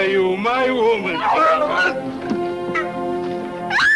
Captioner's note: soldier grunts; Carla screaming